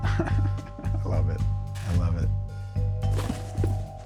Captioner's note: chuckles